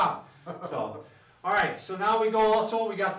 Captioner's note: laughs